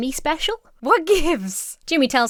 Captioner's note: Emma laughs